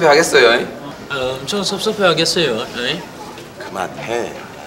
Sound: mimicking

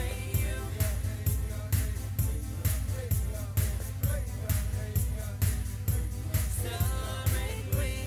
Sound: chanting

